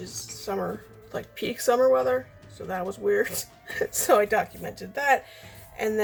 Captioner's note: laughs